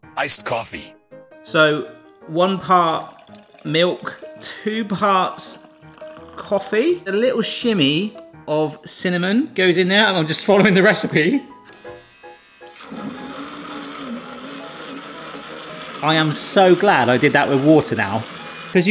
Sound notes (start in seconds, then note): 11.7 motor whirs